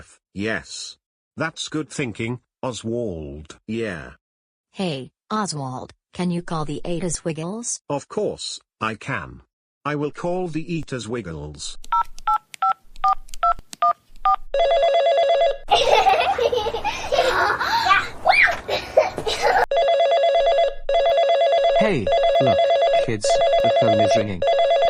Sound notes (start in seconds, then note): 11.7 phone beeps; 14.5 phone rings; 15.7 kids giggling; 19.7 phone rings